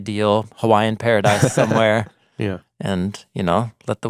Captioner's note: chuckles